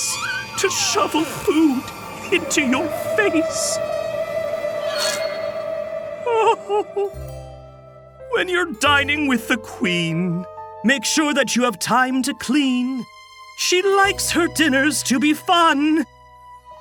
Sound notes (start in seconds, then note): 6.6 crying